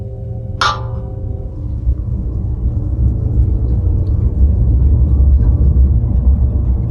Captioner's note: intense music; water drips